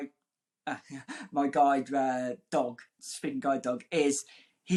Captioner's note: chuckling